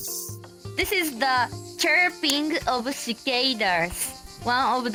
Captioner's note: cicadas chirping